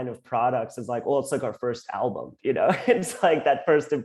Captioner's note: laughs